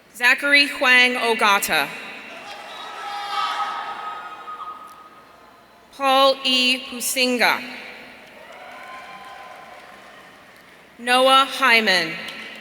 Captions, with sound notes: Zachary Huang-Ogata. (audience cheering) Paul E Huisinga. Noah Hyman.